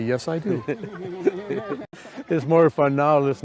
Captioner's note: group laughs